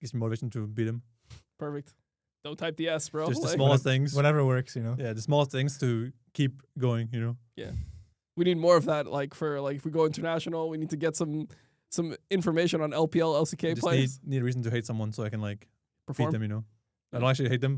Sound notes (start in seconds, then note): 3.2 laughs